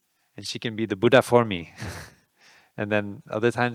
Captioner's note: laughing